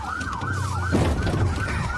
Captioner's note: bangs